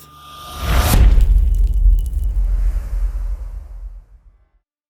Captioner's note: impact